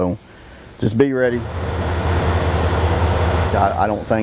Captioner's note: sound of truck pulling into garage